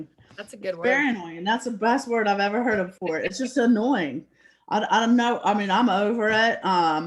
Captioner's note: laugh